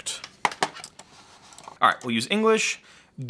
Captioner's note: mouse clunking